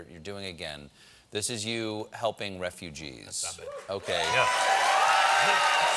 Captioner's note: cheers and applause